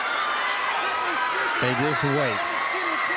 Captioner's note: crowd cheering